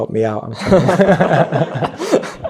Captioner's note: laughs